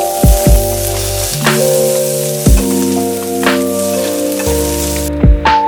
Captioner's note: meat sizzling